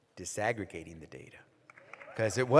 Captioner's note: applause